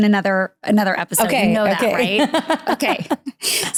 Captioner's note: laughs